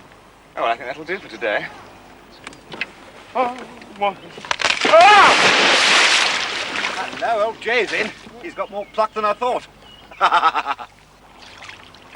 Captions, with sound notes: Oh, I think that'll do for today. (EXCLAIMING) Hello! Old J's in. He's got more pluck than I thought. (LAUGHING)